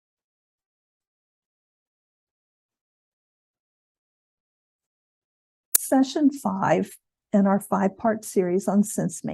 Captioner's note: silence